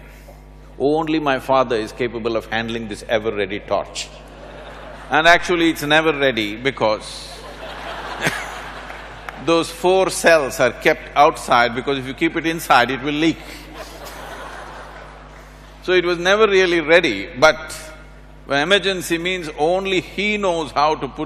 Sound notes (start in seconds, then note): 7.1 few laugh